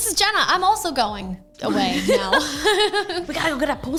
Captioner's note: both laugh